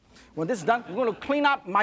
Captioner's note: crowd laughing